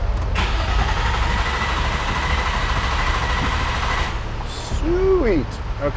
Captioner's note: car engine turning over